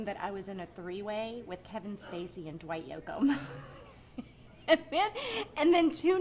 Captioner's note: laughs